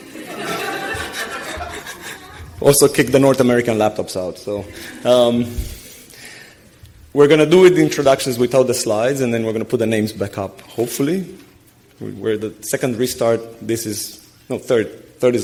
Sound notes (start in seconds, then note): 0.0 audience laughing